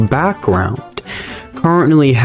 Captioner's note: inhales Oxygen